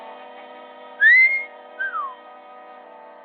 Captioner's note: whistles